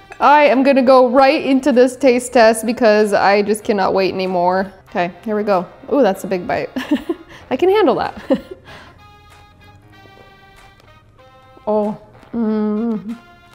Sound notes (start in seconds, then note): 8.1 laughs; 9.4 vibrant music